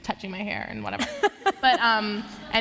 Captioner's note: laughter